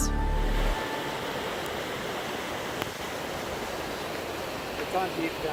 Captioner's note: sound of river water rushing